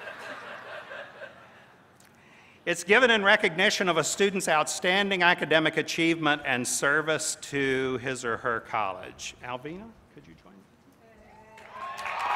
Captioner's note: laughter